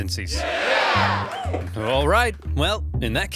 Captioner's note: crowd cheers